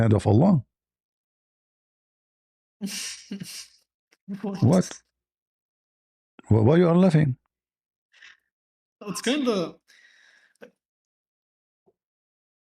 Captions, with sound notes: hand of Allah. >> [laughter] >> What? Why you are laughing? >> It's kind of.